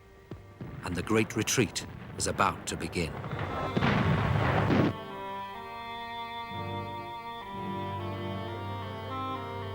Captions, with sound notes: And the great retreat was about to begin. (explosions booming) (stirring symphonic music)